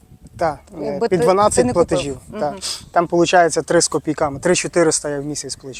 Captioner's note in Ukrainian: сопіння